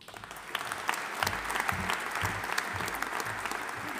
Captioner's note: audience applauding